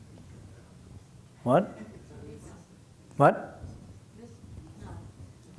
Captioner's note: laughter